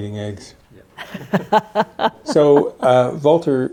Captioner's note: laughing